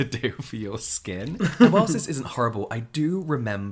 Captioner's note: both laugh